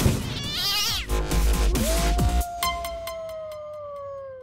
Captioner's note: cat meows; dog howls